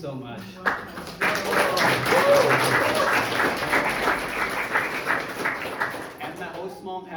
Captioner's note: crowd cheering and applauding